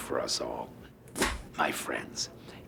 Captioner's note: clapperboard clap